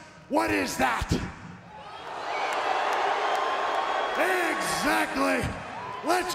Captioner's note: applause